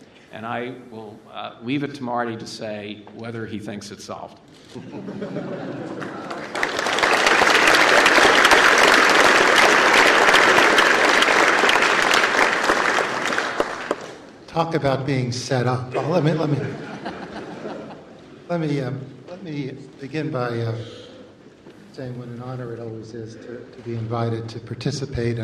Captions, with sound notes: And I will leave it to Marty to say whether he thinks it's solved [laughter]. [ Applause ] >> Talk about being set up. But let me begin by saying what an honor it always is to be invited to participate